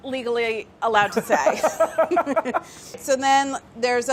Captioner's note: Mark laughing